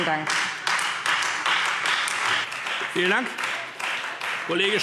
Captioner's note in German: Beifall Freie Demokraten und vereinzelt SPD